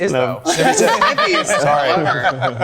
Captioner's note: group laughing